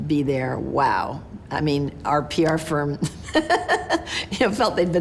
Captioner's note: laughs